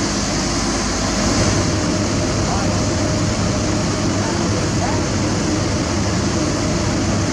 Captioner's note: engine